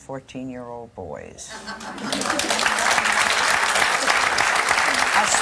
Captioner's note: laughter and applause